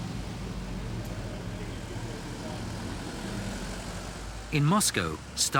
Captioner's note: engines rasping